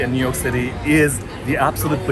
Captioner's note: none